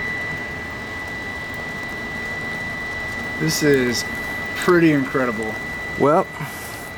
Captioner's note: fan runs at high speed